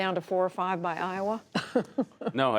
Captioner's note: laughter